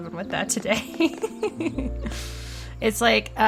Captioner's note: cute laughter